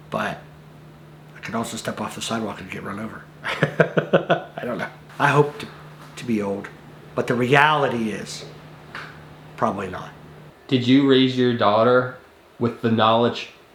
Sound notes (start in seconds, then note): 3.4 laughs